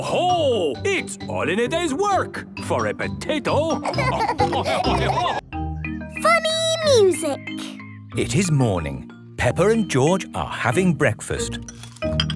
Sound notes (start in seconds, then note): 3.7 laughing